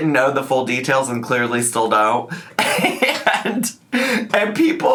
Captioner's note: laughs